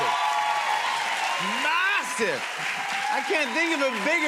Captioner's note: cheers and applause